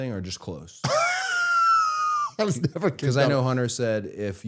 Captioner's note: laughing